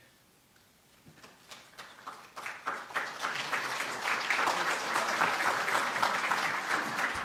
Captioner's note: applause